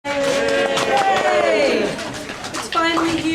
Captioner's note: applause